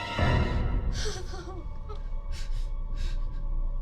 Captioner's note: sobbing